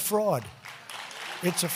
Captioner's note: applause